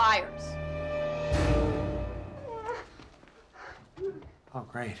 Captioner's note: whimpering